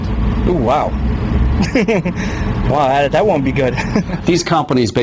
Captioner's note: laughs